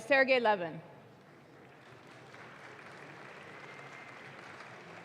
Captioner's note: audience claps